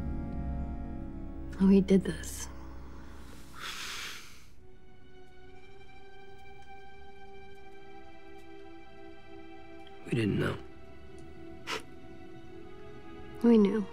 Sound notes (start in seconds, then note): 3.3 sighs; 12.3 scoffs